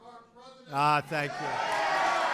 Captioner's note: applause